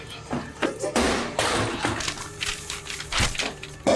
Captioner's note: radio thuds; paper rustling